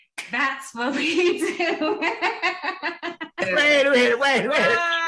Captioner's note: laughing